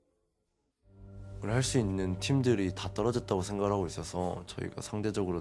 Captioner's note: Oner speaking Korean